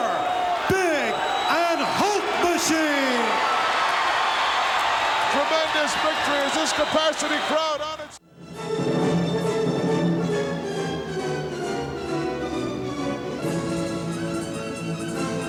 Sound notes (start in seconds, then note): 4.1 crowd cheers; 10.0 dramatic music